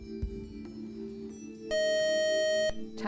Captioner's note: buzzer